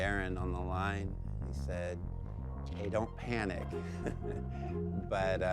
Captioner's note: chuckles